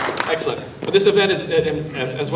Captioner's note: applause